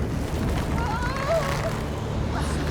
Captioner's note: whimpering